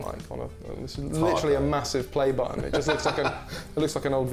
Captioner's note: laughs; laughs